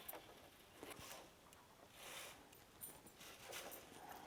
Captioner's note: rubbing noise of threads going into the loom